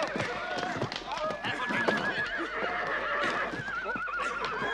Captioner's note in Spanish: gritan